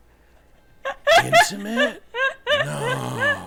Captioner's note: laughing